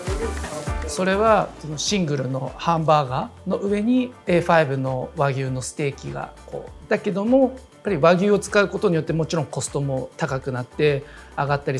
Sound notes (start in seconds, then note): 0.9 speaking Japanese